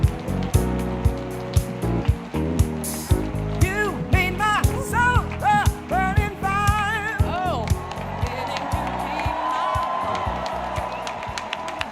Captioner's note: applause